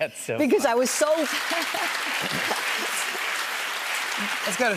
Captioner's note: applause; laughs